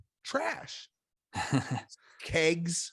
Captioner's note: laughs